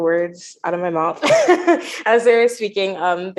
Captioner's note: chuckles